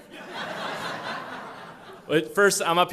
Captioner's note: laughter